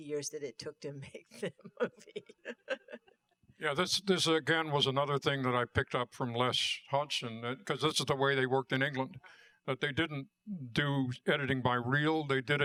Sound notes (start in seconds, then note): 2.5 laughter